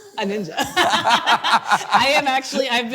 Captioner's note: both laughing